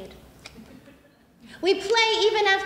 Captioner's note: audience laughs